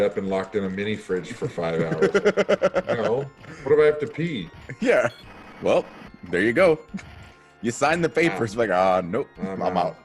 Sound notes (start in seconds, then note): 1.3 laugh